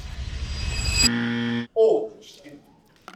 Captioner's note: buzzer